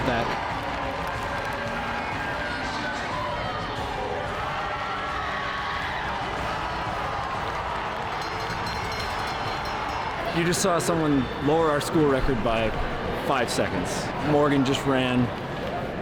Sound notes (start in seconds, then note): 0.3 audience cheering; 8.1 bell ringing